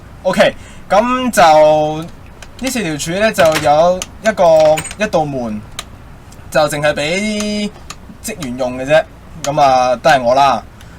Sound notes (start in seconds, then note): 3.4 door sound